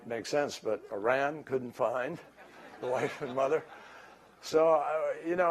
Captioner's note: laughter